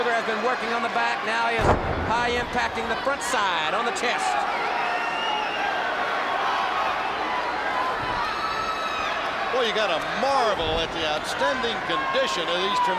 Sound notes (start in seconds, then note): 4.6 crowd chatter